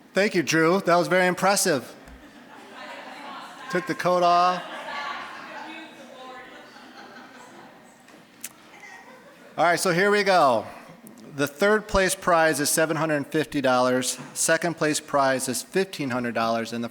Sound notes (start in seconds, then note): 2.0 audience chuckling; 5.7 audience laughing